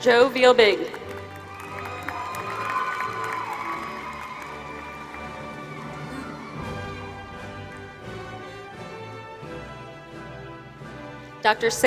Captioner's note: applause